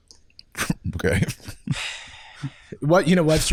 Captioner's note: sighs